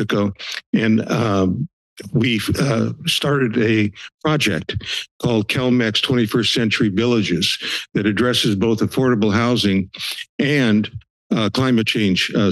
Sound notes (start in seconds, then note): 0.4 sniffles; 4.4 inhales loudly; 7.6 breathes; 7.6 sniffles